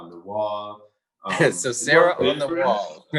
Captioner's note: laughs